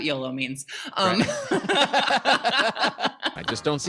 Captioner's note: laughing